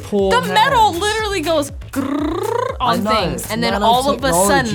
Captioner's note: trills